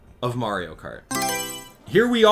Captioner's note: Mario Selection Sound